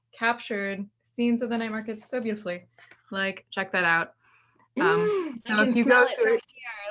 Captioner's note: gasps